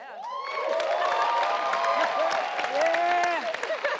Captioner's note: audience cheers